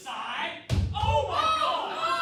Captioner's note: a loud thunk